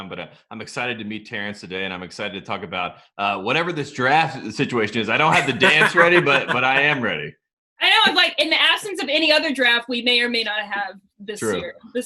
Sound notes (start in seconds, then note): 5.1 laughing